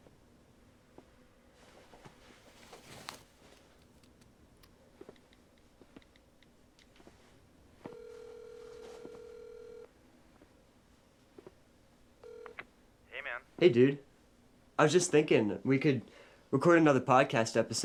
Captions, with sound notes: [phone line trilling] -Hey, man. -Hey, dude. I was just thinking we could record another a podcast episode